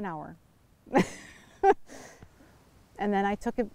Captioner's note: laughing